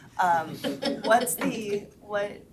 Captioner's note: members laughs